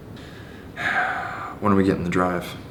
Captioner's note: Jonathan sighing